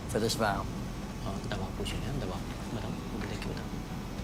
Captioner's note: sotto voce Hindi